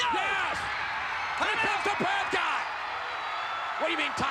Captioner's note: spectators cheering